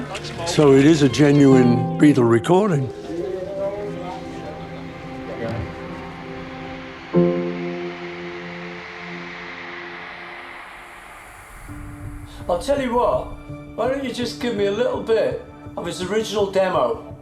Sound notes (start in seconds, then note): 2.8 indistinct chatter; 7.1 audience screams crescendoing